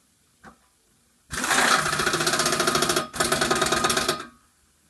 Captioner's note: ah ratt attat attatat atat